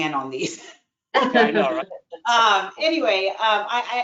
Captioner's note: laughter